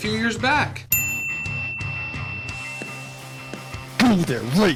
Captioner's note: bell ringing